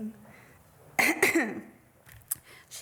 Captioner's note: coughs